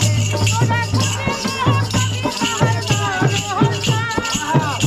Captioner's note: chanting